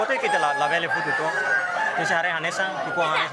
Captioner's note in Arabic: صياح الديكة